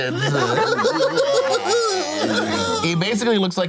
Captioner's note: group cackling